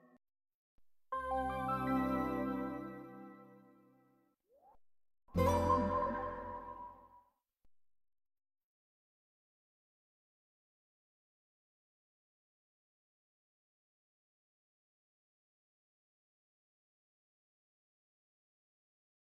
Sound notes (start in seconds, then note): 1.2 digital synth music playing; 10.8 silence